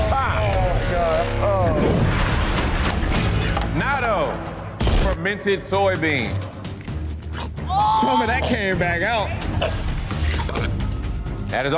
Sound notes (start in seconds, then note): 2.2 ominous music; 2.2 scene whooshing; 7.2 gulping; 9.7 coughing